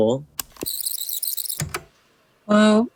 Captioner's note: the tape whirrs fast forwarding and then plays